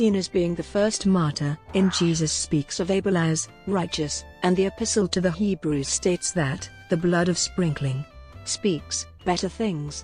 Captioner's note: speaks